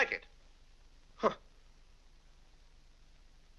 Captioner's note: scoffs